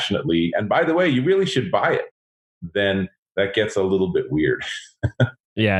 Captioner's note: laughs